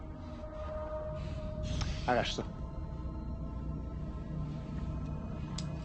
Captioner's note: LaFleur speaking in French